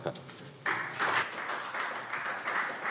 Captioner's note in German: Beifall Freie Demokraten